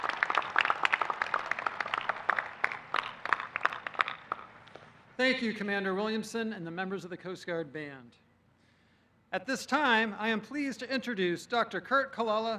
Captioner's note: applause